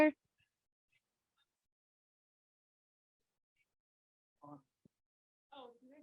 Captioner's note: silence